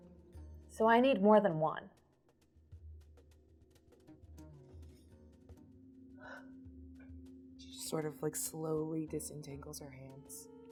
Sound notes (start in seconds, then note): none